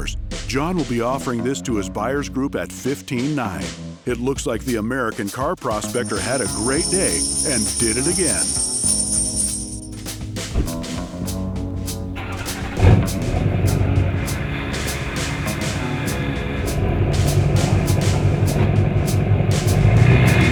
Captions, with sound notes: John will be offering this to his buyers group at 15,900. It looks like the American Car Prospector had a great day, and did it again. (coins dropping) (upbeat music) (engine roaring) (upbeat music)